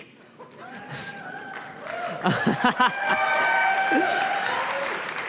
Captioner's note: applause